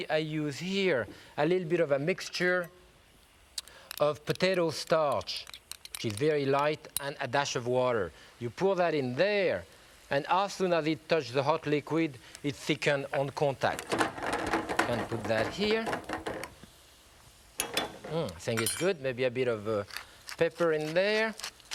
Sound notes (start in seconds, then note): 13.8 pan clattering